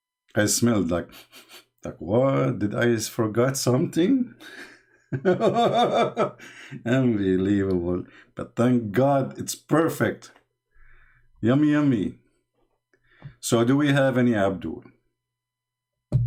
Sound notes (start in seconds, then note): 4.4 Ketawa